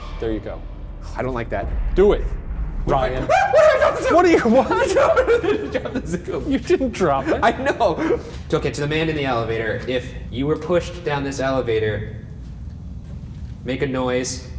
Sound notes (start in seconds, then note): 3.0 screams; 4.6 laughing